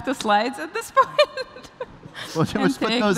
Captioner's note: laughter